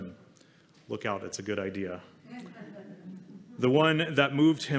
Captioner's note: laughter